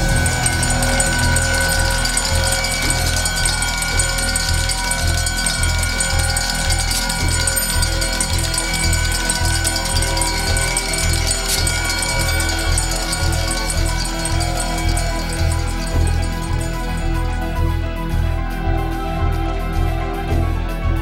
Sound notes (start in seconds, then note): 0.2 closing bell; 11.8 cheers; 17.7 upbeat piano music